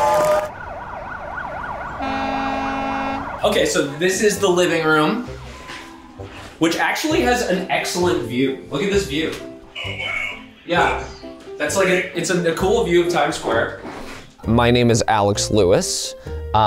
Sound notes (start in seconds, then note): 0.0 sirens wailing